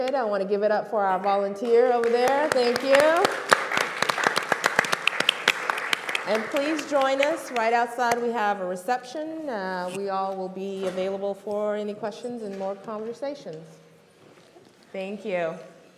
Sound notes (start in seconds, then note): 1.6 group clapping